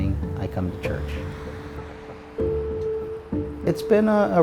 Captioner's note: traffic humming softly; gentle music